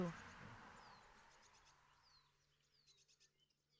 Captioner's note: birds chirping